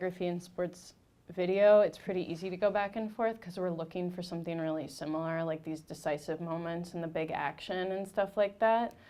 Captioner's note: none